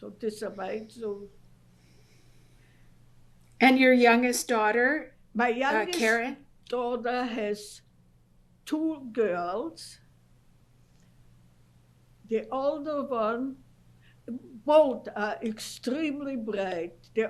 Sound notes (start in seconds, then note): 9.4 pauses for 3 seconds